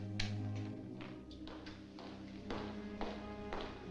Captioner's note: footsteps Approaching